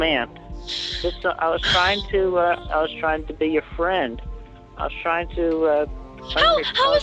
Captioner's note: stuttering